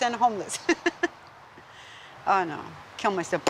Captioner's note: giggles